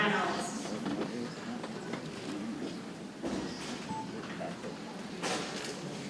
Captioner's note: people chattering softly